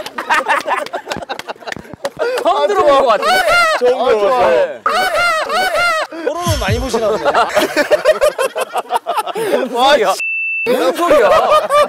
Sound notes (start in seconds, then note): 1.1 laughing; 7.4 laughing